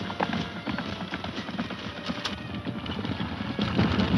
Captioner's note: horses galloping